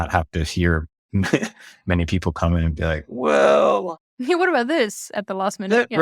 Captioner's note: laughs